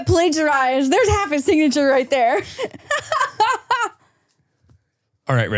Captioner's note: laughs